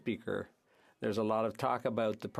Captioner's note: speaking French